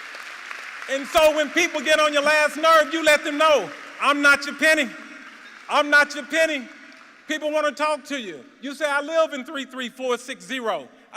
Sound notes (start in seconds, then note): 4.0 applause